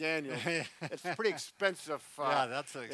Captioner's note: laughs